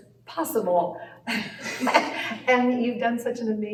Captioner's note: laughter